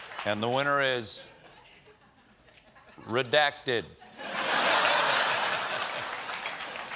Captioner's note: applause; laughter; applause